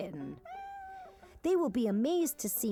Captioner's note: kitten meowing